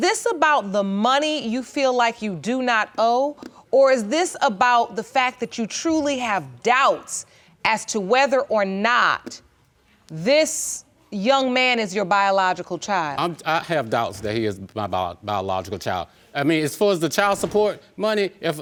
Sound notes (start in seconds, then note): none